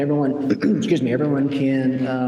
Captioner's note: clears throat